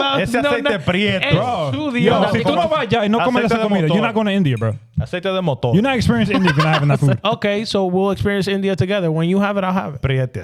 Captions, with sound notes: (Speaking In Foreign Language) You're not going to India, bro. (Speaking In Foreign Language) You're not experiencing India, you're not having that food. Okay, so we'll experience India together. When you have it, I'll have it.